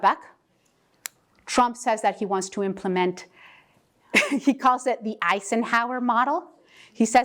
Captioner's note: laugh